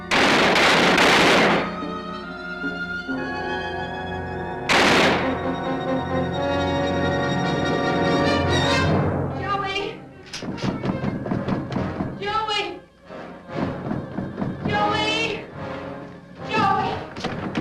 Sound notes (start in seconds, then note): 0.0 gun firing; 3.3 tense music; 4.6 gun firing; 6.4 dramatic music; 10.4 loud knocking